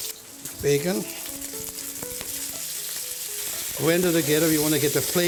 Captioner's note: sizzling